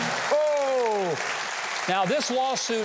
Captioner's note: audience laughs and claps